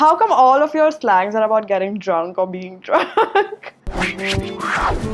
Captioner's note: laughs; band music playing